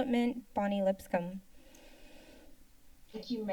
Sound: silence

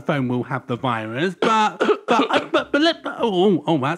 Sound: Fred coughs

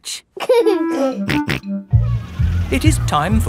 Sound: giggling and snorting

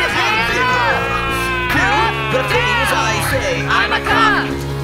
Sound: siren noises; siren noises

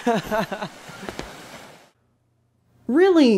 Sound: laughs

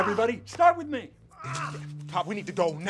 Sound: Ray groaning

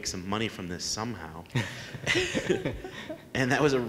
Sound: laughs

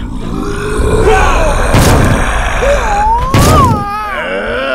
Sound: punches thudding

